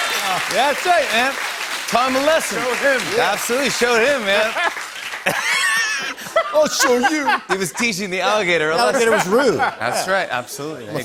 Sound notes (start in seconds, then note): 0.0 laughter and applause; 5.2 laughter